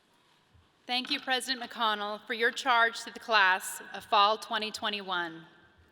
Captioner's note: none